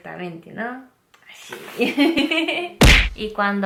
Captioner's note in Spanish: ríe